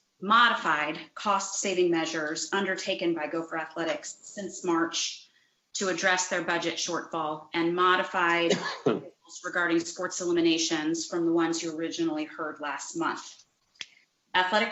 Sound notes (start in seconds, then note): 8.8 distorted sound